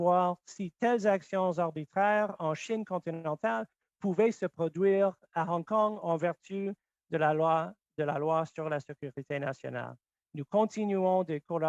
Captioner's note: speaking French